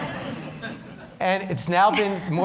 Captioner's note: laughter